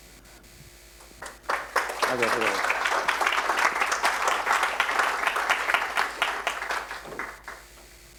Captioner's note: applause